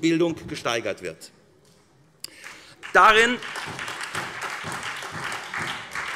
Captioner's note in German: Beifall SPD